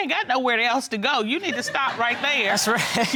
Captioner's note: audience laughing; laughing